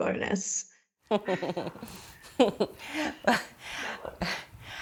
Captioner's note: all laughing